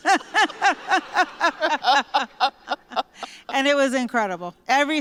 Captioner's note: laughter